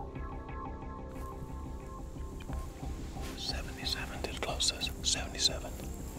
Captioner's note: whispering